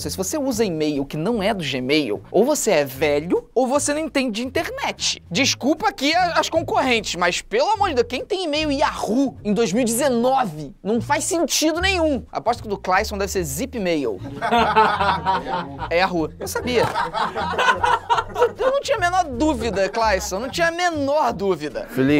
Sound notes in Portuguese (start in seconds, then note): 14.2 risadas